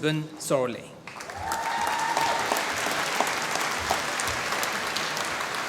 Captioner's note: applause